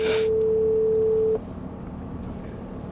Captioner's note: dial tone